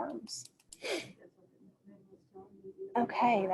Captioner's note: faintly speaking